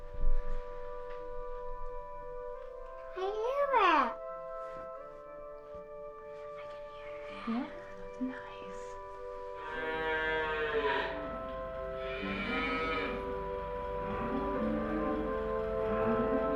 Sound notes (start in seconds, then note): 0.1 serene music; 9.5 cow mooing; 13.0 tractor purring